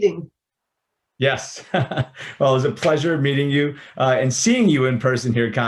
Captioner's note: chuckles